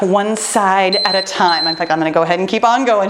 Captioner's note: timer beeping